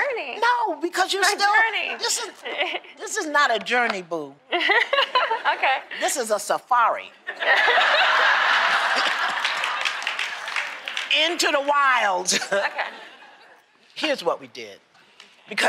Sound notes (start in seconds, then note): 1.9 laughs; 7.3 laughter; 8.9 applause